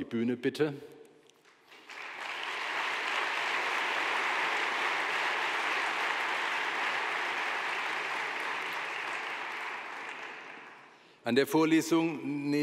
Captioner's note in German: Beifall